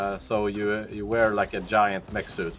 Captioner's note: none